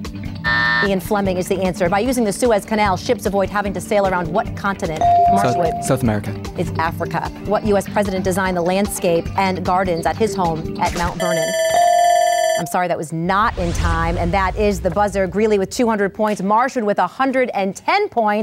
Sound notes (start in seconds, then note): 0.4 buzz; 5.0 ding; 11.2 bell ringing